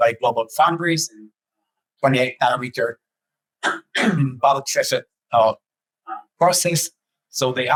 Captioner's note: clear throat, inaudible